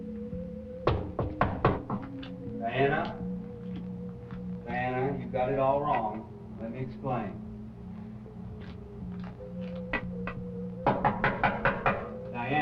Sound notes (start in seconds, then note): 0.8 knocking; 10.8 knocking